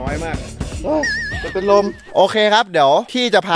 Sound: sighs

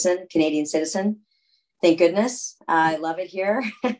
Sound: laughter

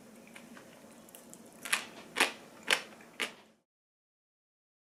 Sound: crunching pickled radish

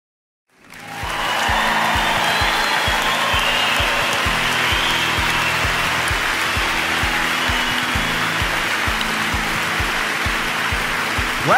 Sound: applause

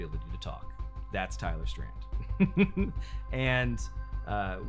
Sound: laughs

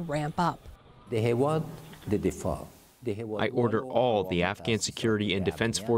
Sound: through translator

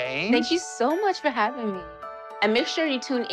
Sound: none

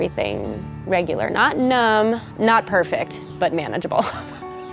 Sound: laughs

